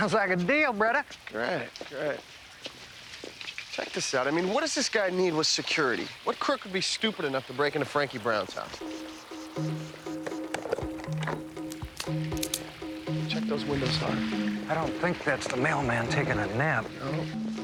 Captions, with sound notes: - Sounds like a deal, brother. - Great. Great. Check this out. I mean, what does this guy need with security? What crook would be stupid enough to break into Frankie Brown's house? ■ (guns cock) Check those windows, Harv. - I don't think that's the mailman taking a nap. - Nope.